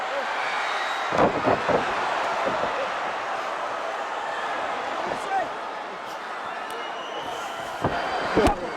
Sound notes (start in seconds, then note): 1.0 body thuds